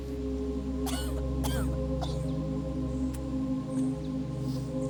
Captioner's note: Abby coughs